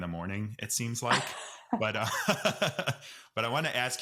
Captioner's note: both laugh